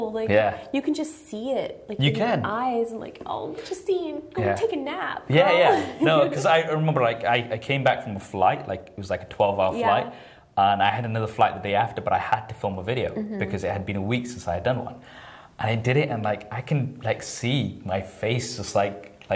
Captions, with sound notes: You can just see it in your eyes, I'm like "oh, Justine, go take a nap, girl!" (laughs) - Yeah 'cause I remember I came back from a flight, it was like a 12 hour flight. And I had another flight the day after, but I had to film a video because it had been a week since I had done one. I did it and like I can see my face just...